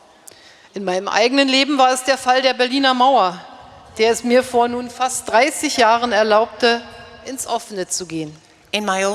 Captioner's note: speaking in German